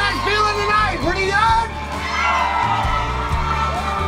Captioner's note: crowd cheers